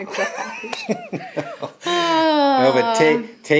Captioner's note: laughing